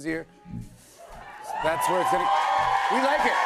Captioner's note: cheers and applause